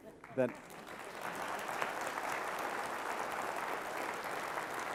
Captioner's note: applause